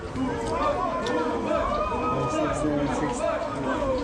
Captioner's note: crowd cheering